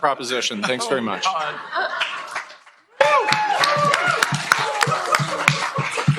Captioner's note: cheering, applause